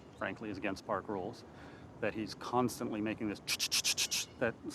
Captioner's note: imitating birds